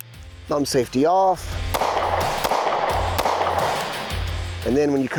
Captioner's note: gun shots